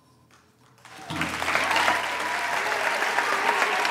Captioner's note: applause